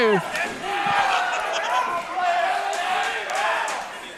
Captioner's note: crowd cheering